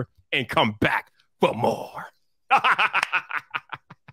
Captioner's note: laughs; claps